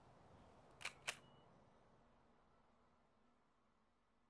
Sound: shutter clicks

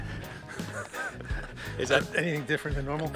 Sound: laughs

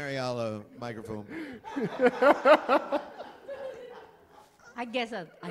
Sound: laughter

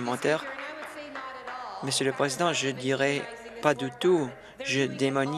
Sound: some Applause

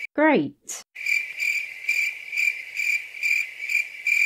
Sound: crickets

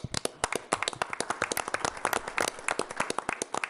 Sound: applause

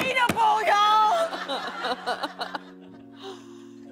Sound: laughter

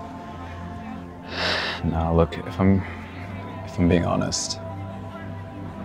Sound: sighs

